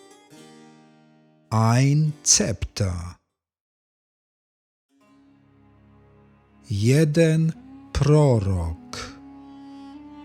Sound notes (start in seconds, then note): 3.2 german